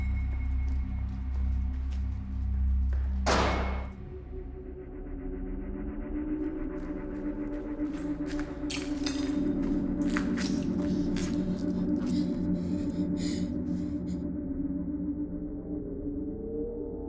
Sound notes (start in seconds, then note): 0.1 eerie music; 3.2 door clicks; 4.9 eerie music; 8.6 debris rattles; 11.8 Abby pants